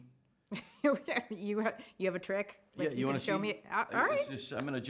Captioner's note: laughs